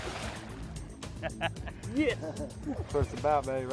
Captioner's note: laughing